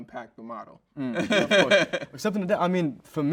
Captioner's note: host chuckles